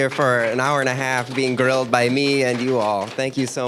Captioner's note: applause